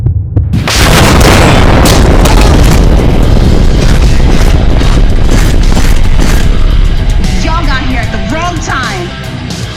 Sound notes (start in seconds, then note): 0.4 kaboooooooom!!!!